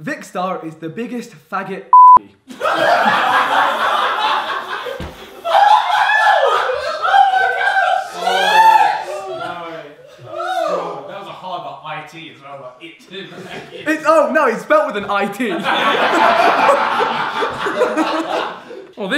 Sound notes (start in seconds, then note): 1.9 beep; 2.5 audience laughing; 15.3 audience laughing